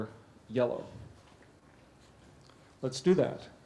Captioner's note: pause